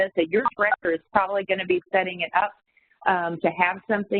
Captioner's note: audio warps